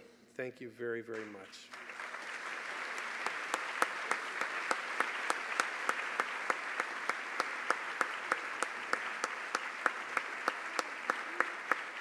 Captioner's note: applause